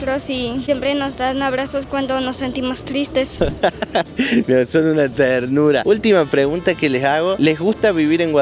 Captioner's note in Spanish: risas